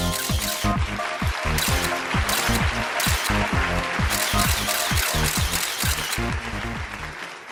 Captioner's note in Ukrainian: оплески